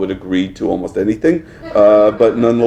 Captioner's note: laughter